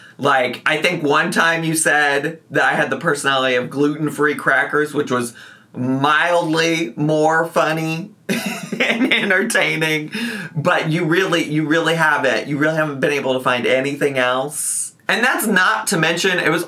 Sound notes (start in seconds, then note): 7.5 laughs